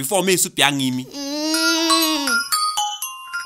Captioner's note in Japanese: 不満そうな うなり声; スマホの着信メロディー